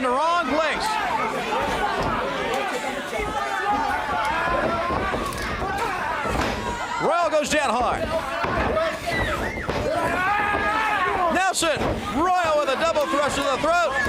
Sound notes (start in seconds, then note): 2.6 crowd chatter